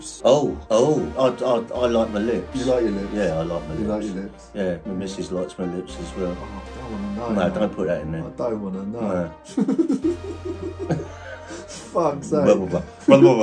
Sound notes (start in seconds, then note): 9.4 laughing; 11.1 both laughing